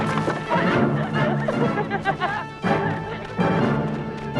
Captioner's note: posts clatter; both laughing